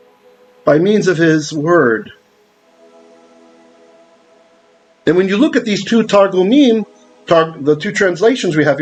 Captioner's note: Hebrew